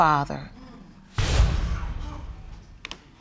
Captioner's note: audience gasps